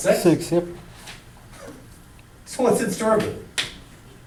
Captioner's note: voiceover